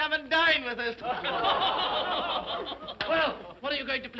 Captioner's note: all laugh sardonically